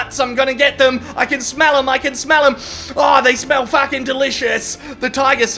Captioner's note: sniffs